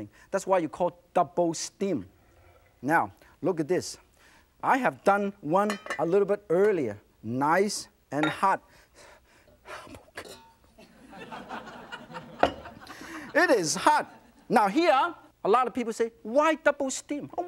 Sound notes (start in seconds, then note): 8.6 winces and gasps; 10.8 audience laughs